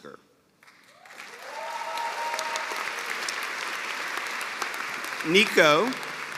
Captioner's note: cheers and applause